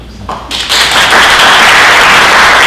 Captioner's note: audience applauds